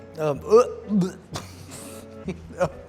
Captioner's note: gagging